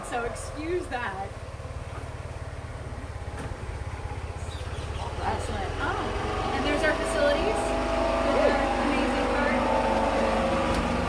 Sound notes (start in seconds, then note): 1.4 engine noises in background; 4.2 engine intensifies